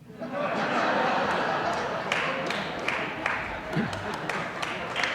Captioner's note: audience laughing; audience applauding